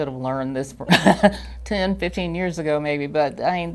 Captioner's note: laughs